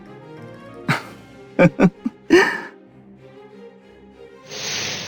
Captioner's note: laugh